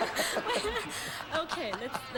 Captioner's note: audience laughing